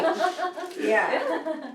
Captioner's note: laughs